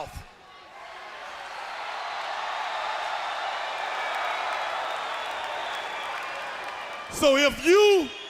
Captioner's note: crowd cheering